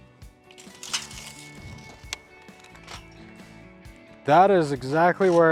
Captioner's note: tape measure retracting